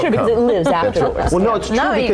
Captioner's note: laughing